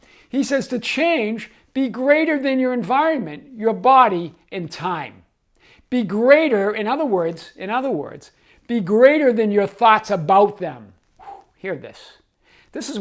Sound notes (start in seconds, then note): 11.2 exhaling